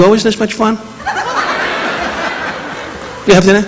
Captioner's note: audience laughing